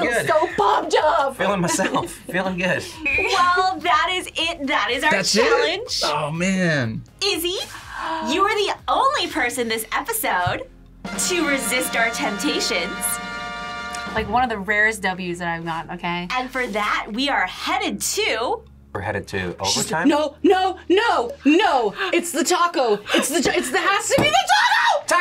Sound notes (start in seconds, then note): 7.7 gasps; 11.0 triumphant fanfare